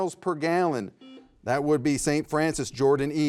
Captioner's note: buzzer buzzes